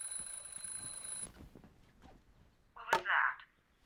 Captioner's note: alarm ringing